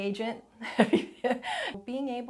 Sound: chuckles

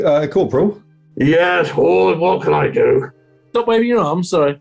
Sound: gruffly

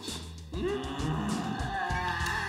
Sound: groan

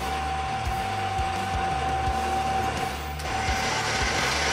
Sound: upbeat rock music; drill whirring

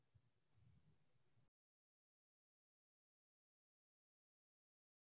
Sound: silence

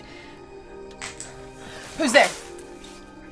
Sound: twig snaps

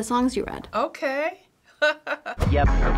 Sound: laughing

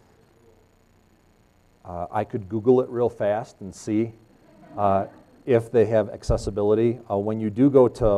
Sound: laughs

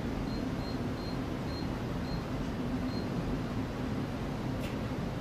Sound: power level beeps

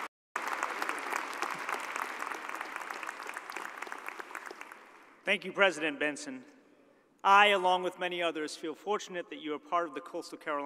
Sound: cheers and applause

